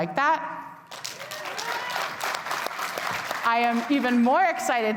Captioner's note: attendees cheering and clapping